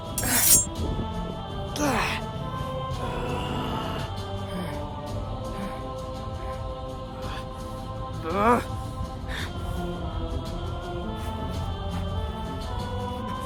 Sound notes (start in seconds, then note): 3.0 grunts, then growls at Steve; 5.4 breathes heavily